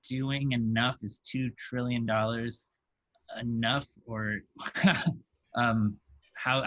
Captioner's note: laughs